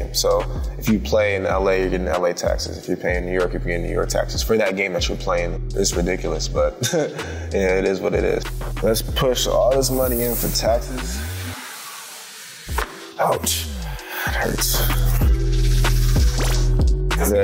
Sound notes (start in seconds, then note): 6.7 chuckles